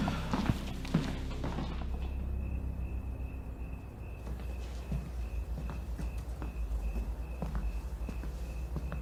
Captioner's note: crickets chirp